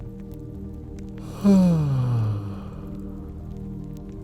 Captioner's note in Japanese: あくび